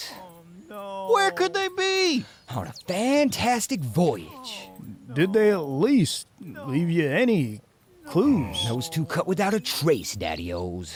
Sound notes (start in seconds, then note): 8.0 moans